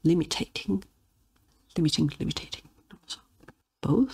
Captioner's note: in Italian